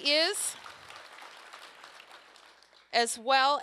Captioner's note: applause